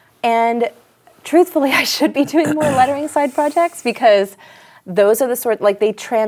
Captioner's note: laughs